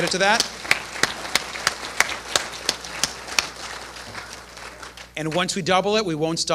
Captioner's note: applause